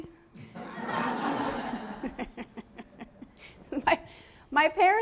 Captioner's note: laughter